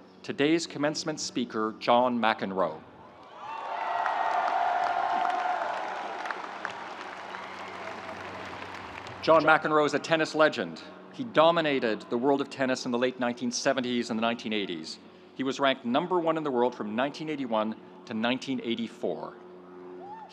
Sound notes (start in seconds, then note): 3.1 audience cheering; 3.4 audience applauding